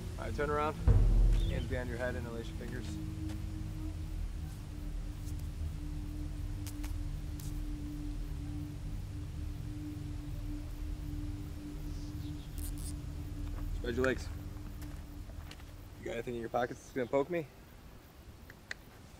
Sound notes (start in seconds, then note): 4.9 dramatic music continues; 12.8 zip tie zips